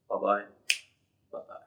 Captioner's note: snaps fingers